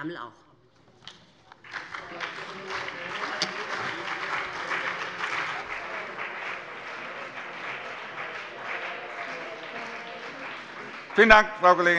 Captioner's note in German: Beifall BÜNDNIS 90/DIE GRÜNEN und CDU